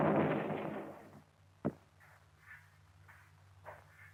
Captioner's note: gunfire stops